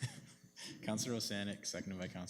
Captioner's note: councillor laughs